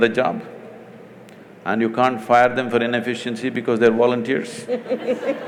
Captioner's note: laughter; laughs